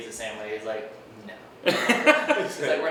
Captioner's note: laughing